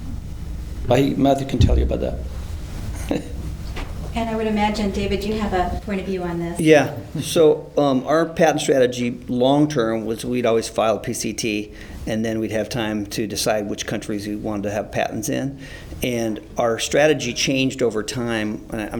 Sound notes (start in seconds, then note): 3.0 chuckles